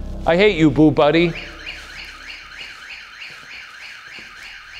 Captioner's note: alarm blaring